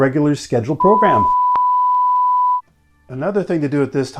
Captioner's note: beep